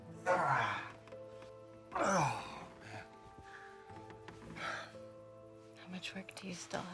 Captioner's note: groaning